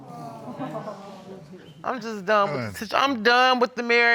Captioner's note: crowd sympathetic